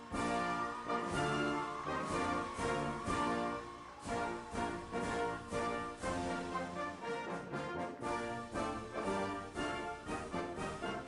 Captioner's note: cheers